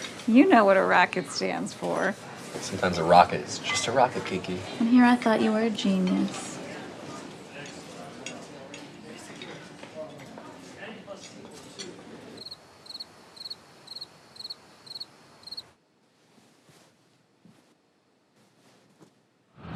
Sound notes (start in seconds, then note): 8.6 people chattering; 12.3 crickets chirping